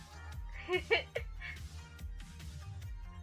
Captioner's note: chuckle